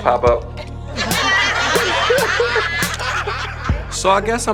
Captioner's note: crowd laughing